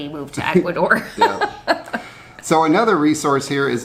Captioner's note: laughs